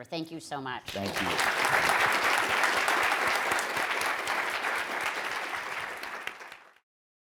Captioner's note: crowd applauding